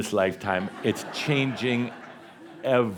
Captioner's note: laughter